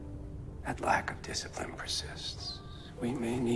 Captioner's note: voiceover